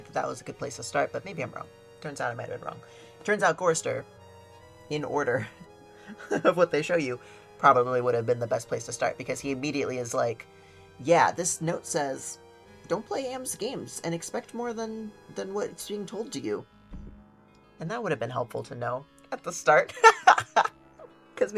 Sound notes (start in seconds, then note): 5.4 laughs; 20.0 laughs